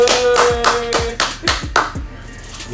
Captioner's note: applause